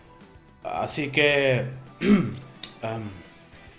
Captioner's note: clears throat